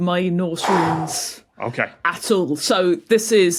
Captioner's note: phew